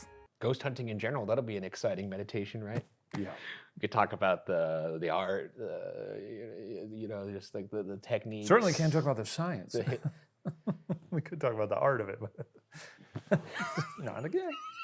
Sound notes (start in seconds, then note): 3.0 palm thumping; 10.4 chuckles; 13.1 both chuckling